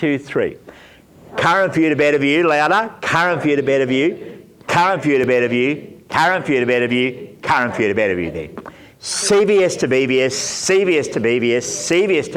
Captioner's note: audience reciting